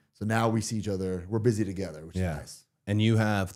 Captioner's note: none